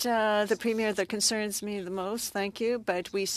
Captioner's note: speaking French